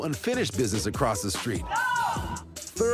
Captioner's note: shouting